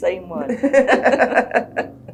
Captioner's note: laughter